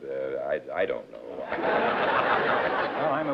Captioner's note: laughter